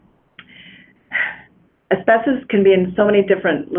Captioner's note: sighs